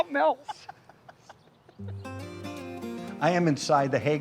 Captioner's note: laughing